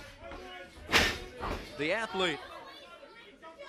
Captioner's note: crowd chatter